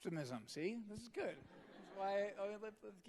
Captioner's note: audience laughing